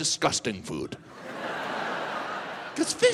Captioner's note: audience laughs